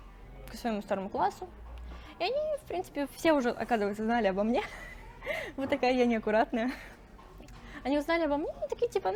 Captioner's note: laughs